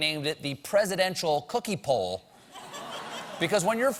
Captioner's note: laughter